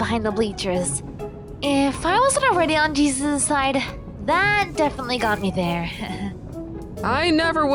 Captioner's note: slight chuckle